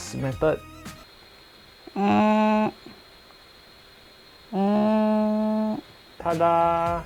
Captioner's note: constipation sounds